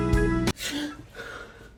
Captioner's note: romantic music playing; gasps